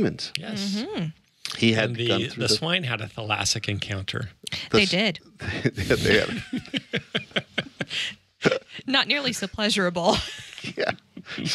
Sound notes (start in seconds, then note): 5.6 laughing; 10.9 laughs